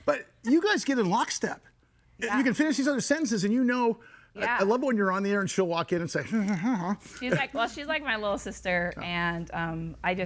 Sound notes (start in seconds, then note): 7.6 mumuring